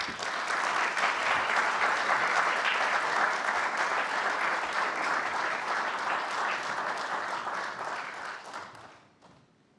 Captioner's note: applause